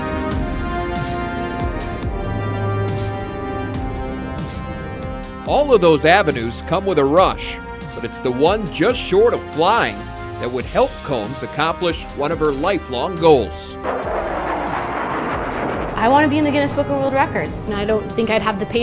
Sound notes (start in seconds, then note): 13.8 jet noise